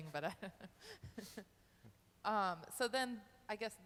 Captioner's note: laughing